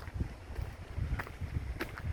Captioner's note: footsteps